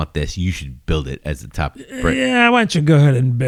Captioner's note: uh